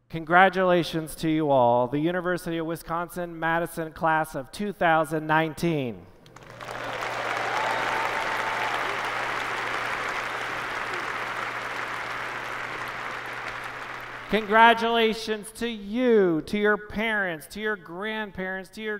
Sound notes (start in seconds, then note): 6.3 applause